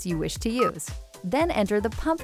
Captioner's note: system beeps